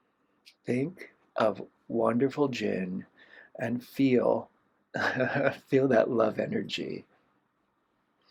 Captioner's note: laughter